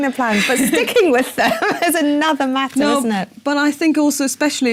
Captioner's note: laugh